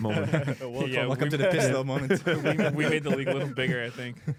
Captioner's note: laughs